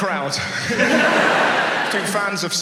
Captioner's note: audience laughs